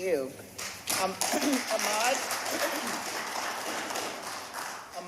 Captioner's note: applause